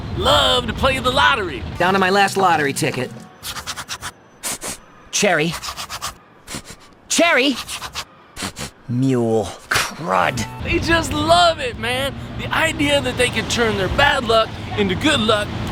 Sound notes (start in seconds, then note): 6.4 sniff; 6.4 sniffs again